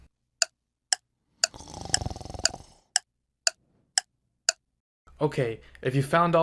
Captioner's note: clock ticking